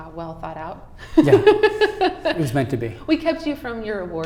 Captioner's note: laughing